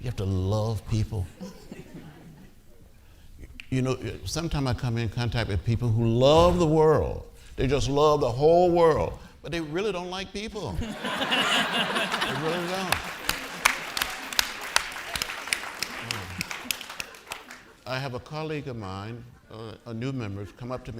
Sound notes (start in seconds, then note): 10.8 audience laughing; 14.4 audience applauding